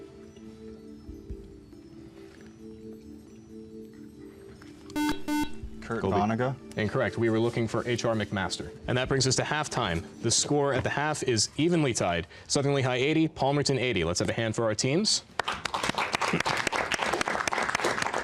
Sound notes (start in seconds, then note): 4.9 beeping; 15.3 applause